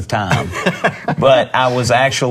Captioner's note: laughing